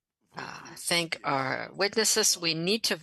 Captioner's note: speaking French